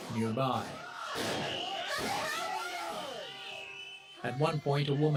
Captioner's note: crowd shouting; flashbangs popping